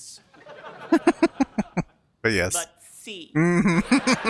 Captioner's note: chuckling; laughing